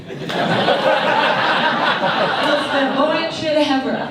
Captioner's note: audience laughs